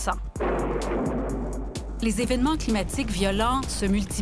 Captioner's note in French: tonnerre